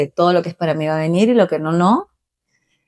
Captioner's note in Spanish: none